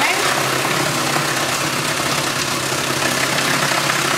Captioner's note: loud machine rattling